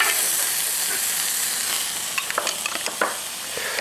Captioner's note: sizzling